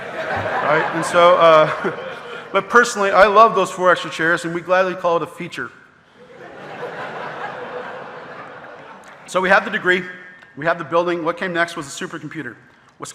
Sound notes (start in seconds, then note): 0.0 audience laughing; 0.0 laughs; 6.2 audience laughing